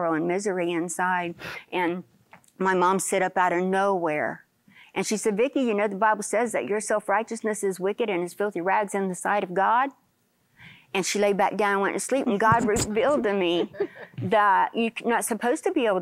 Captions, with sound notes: AND MISERY INSIDE", AND MY MOM SIT UP OUT OF NOWHERE, AND SHE SAID, "VICKIE, YOU KNOW THE BIBLE SAYS THAT YOUR SELF-RIGHTEOUSNESS IS WICKED AND IS FILTHY RAGS IN THE SIGHT OF GOD." AND SHE LAID BACK DOWN AND WENT TO SLEEP. AND GOD REVEALED TO ME, [LAUGHTER] THAT "YOU'RE NOT SUPPOSED TO BE ABLE